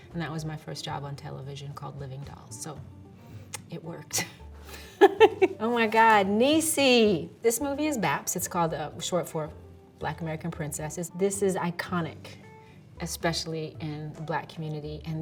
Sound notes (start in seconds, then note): 4.8 laughing